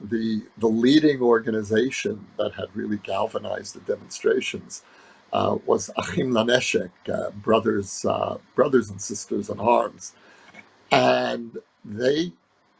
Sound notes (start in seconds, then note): 6.6 speaking hebrew